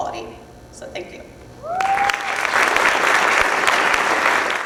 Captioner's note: clapping